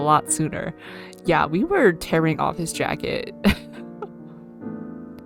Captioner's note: laughs